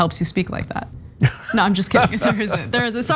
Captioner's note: laugh